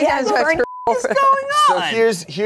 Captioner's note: beep